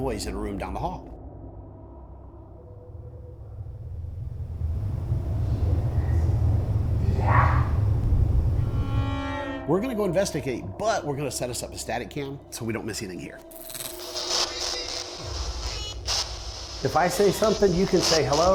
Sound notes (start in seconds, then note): 7.0 growl; 14.2 spirit box scanning; 14.2 spirit box voice